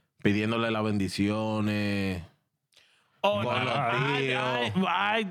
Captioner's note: speaking In Foreign Language